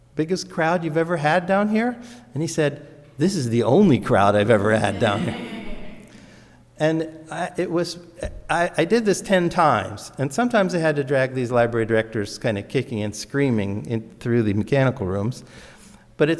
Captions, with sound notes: biggest crowd you've ever had down here?" And he said, "This is the only crowd "I've ever had down here." (audience laughs) And it was, I did this 10 times. And sometimes I had to drag these library directors kind of kicking and screaming through the mechanical rooms.